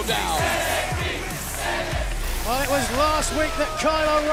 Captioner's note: crowd cheering